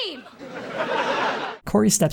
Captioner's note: audience laughter